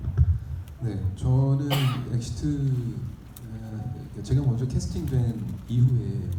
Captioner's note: speaking in foreign language